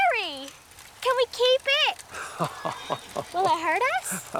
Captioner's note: chuckles